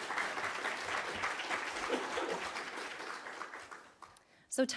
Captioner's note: applause